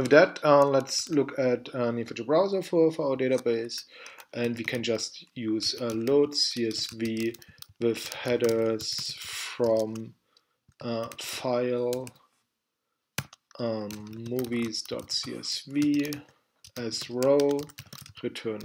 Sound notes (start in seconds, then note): 8.5 typing; 13.2 typing